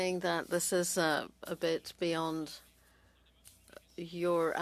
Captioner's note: speaking French